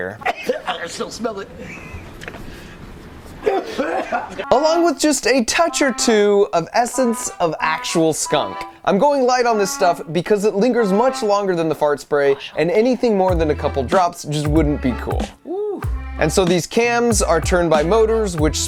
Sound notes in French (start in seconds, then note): 0.0 toux; 0.2 rires; 3.4 Macaulay tousse